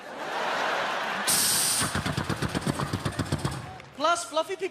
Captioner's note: hissing, clicking